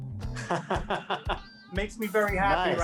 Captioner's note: laughing